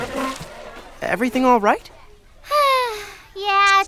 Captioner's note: sighs